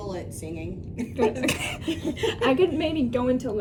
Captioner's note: all laughing